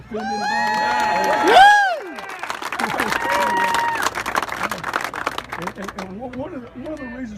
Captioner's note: cheers & applause